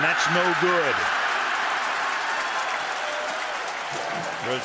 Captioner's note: cheering